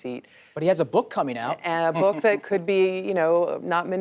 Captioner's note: laughs